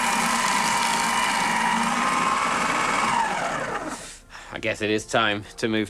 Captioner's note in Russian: Шум шреддера